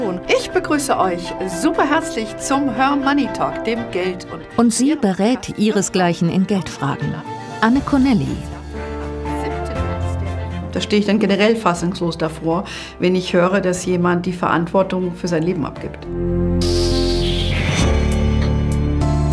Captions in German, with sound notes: Ich begrüße euch superherzlich zum "Her Money"-Talk! Und sie berät ihresgleichen in Geldfragen. Anne Connelly. (Sie spricht im Hintergrund.) Da steh ich dann generell fassungslos davor, wenn ich höre, dass jemand die Verantwortung für sein Leben abgibt. (Nachdenkliche Musik)